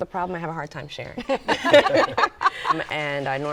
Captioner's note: laughter